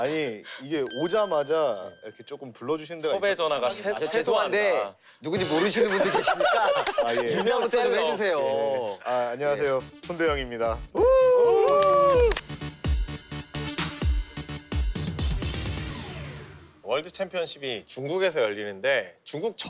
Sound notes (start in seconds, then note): 8.2 everyone laughs; 11.6 applauds